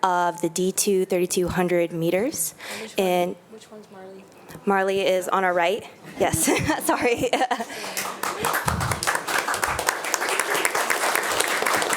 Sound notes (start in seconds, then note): 6.2 chuckles; 7.6 attendees applauding